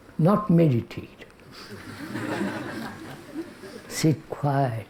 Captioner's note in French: rires